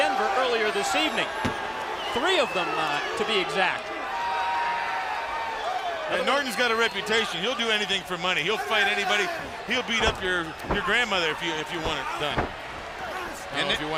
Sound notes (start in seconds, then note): 3.5 crowd chatter